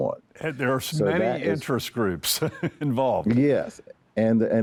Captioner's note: chuckles